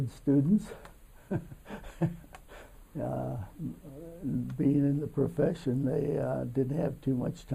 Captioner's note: laughs